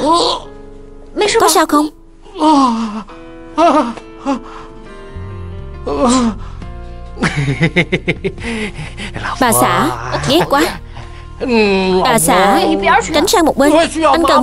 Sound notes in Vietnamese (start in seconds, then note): 7.2 Tiếng cười